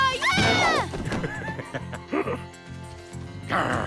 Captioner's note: laughs